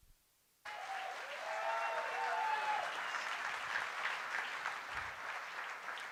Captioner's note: applause